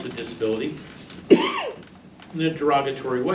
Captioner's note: male audience member coughs